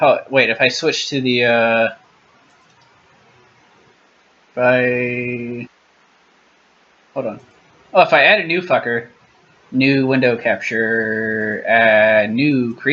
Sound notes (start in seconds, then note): 4.5 long pause; 4.5 pause